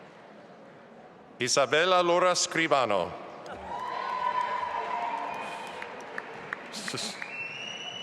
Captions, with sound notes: Isabella Lora Scribano. (audience applauding)